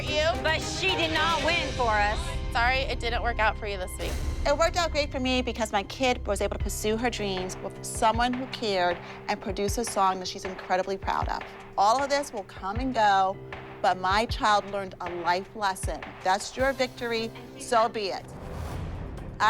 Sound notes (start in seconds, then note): none